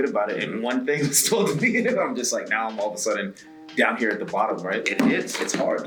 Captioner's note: laugh